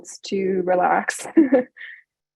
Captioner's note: chuckles